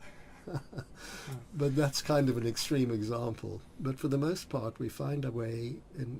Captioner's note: both laugh